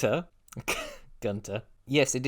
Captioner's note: chuckle